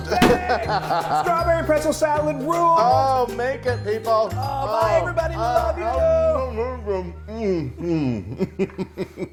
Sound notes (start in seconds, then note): 6.4 muffled speech through a mouthful of salad; 7.4 laughs